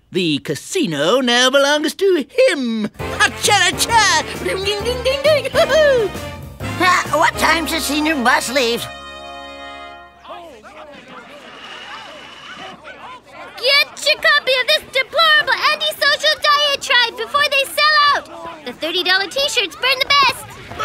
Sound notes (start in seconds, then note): 10.2 murmuring